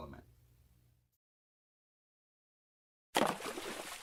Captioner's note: splash sound of Knowledge being metaphorically dropped